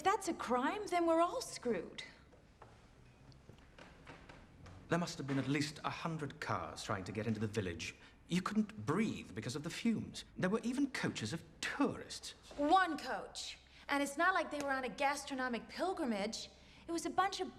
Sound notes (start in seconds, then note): none